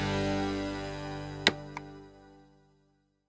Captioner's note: click